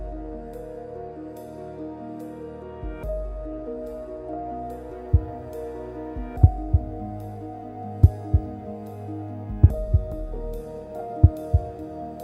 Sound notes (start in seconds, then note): 6.2 heartbeats